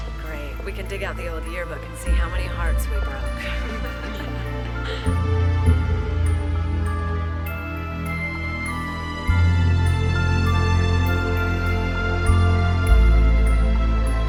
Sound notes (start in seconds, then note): 3.1 chuckling; 6.0 melancholy music